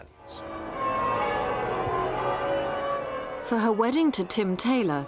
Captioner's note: bells chiming